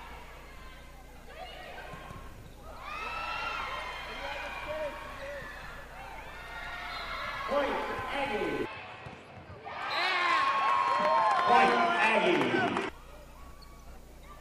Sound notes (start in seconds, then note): 9.8 whistle blowing and cheering